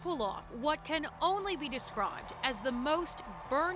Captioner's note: cheers and Applause